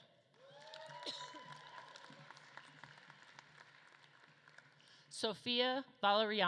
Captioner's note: audience claps and cheers